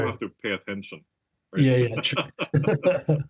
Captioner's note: laugh